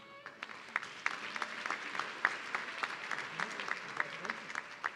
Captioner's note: audience clapping